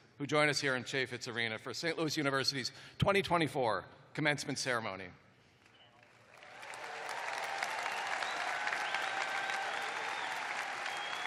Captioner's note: cheers and applause